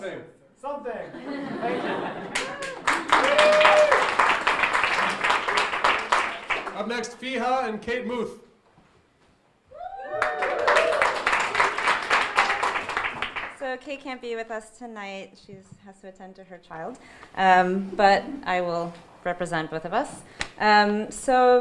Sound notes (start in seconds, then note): 1.0 audience laughing; 4.3 audience applauding; 9.7 audience cheering and applauding